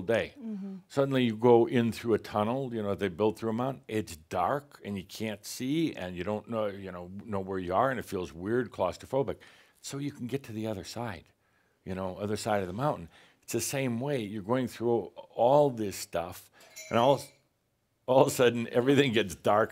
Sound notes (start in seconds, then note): 16.6 something rattles